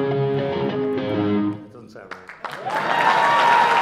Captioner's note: cheers and applause